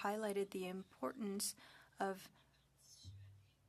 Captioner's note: speaking French